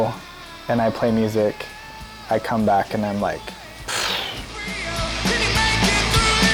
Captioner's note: sighs